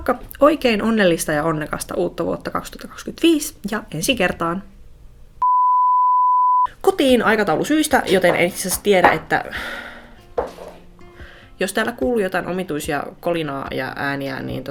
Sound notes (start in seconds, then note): 5.4 beep; 10.1 clunk